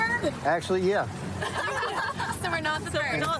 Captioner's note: laughter